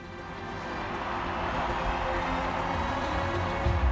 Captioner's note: people cheering